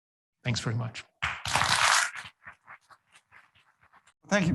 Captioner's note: audience applauds